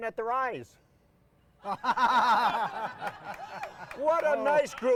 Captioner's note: audience applauding; all laughing